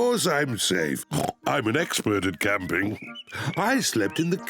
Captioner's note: oinks; laughs